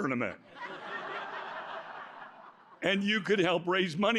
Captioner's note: laughter